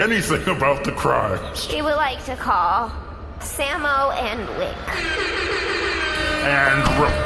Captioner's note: airhorns